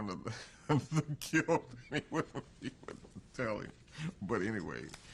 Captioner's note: laughs